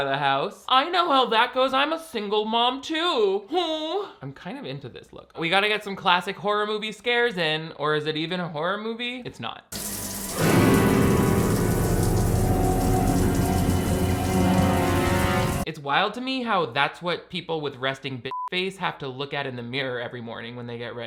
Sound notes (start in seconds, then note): 9.8 tense suspenseful music; 18.3 beep